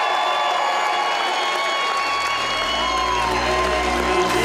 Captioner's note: applause and Cheer